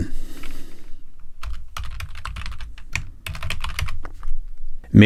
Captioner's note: keyboard clacking